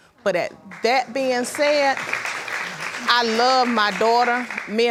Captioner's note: audience applauding